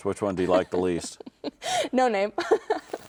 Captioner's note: laughing